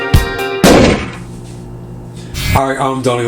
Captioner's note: loud bang